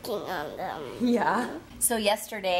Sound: laughs

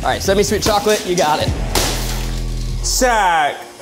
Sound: clattering

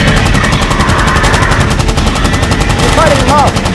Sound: roaring

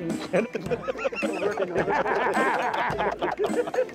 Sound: they laugh

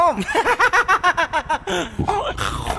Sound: laughs

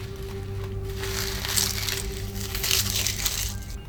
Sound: SFX: Cutting; SFX: Peeling onions

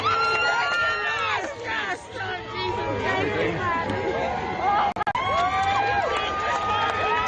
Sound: cheers and applause

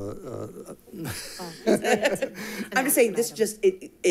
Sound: people chuckle

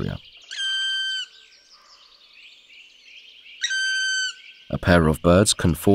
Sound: sounds of nature

